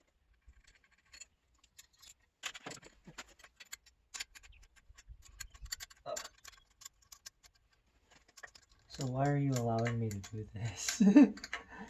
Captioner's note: laughter